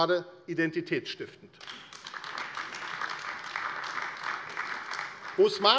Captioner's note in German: Beifall AfD